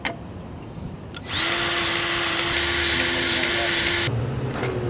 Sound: grease gun revving

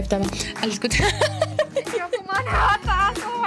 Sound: nervous laughter

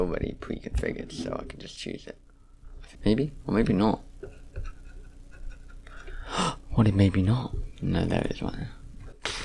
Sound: gasps

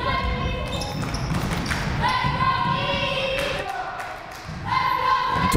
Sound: crowd cheering and chanting

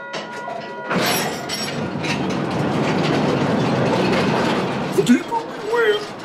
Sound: loud train noise

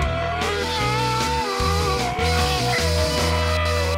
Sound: angry hooting

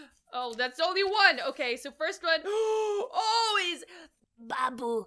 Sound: gasps

